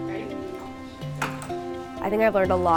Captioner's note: harness clacks